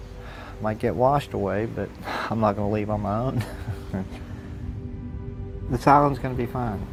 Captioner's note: chuckles